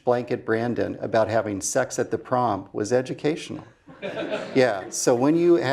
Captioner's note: laugh